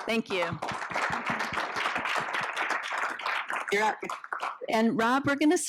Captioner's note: audience applauding